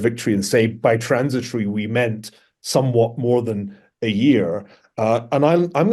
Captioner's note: none